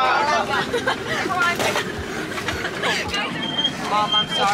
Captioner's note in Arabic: الأطفال يضحكون